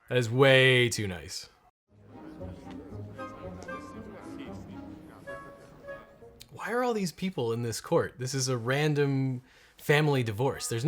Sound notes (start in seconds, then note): 1.9 mischievous orchestral music; 2.1 people murmuring